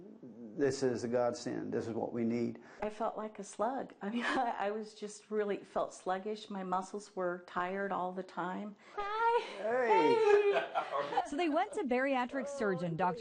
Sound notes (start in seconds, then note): 9.4 laughs